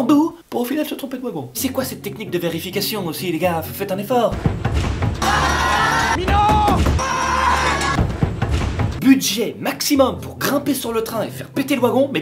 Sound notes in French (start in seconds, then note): 4.4 toc toc toc toc